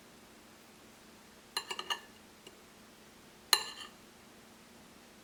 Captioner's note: knife on plate scraping